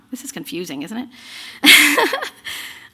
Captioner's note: laughter